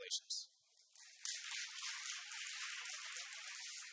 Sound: audience applauds

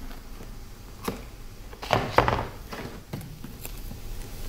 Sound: rumble

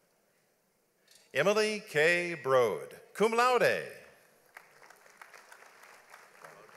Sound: audience applauds

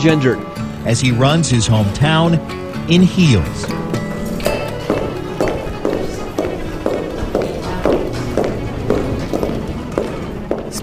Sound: sound of heels on the floor

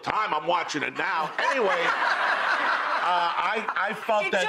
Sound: audience laughing

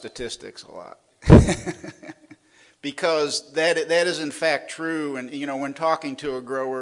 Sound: laughs

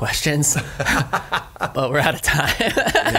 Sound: laughs

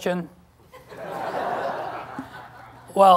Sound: laughter

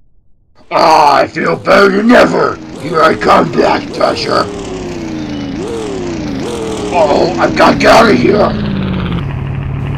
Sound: hears the engine of a car approaching

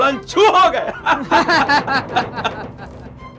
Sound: laughs

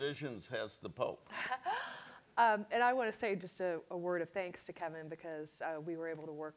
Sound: laughs

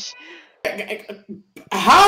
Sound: noises of confused irritation

